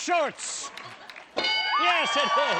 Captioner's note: bell